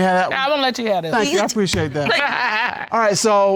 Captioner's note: laughs